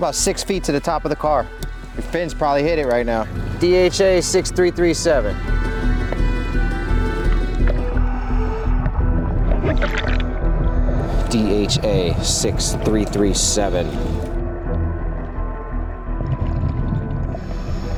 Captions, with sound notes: you got about six feet to the top of the car. Your fins probably hit it right now. DHA-6337. (intense music) (underwater sounds) DHA-6337. (intense music)